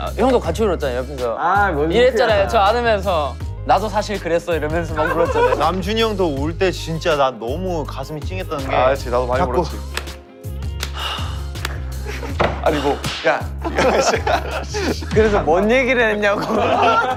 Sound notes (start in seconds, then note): 9.9 slap